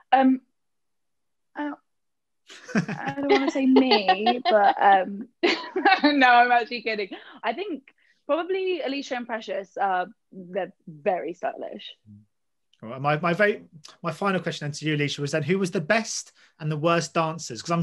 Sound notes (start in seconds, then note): 2.5 laugh; 5.7 laughs